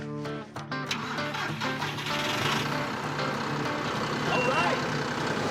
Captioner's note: engine starting